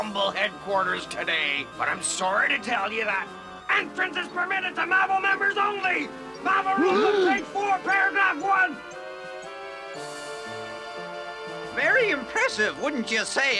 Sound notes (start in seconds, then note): 6.8 both gasp